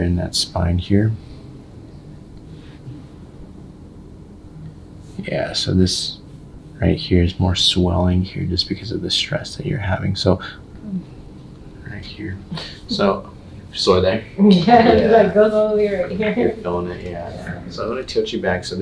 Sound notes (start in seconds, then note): 10.7 patient groans